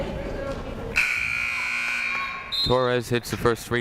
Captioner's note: buzzer blares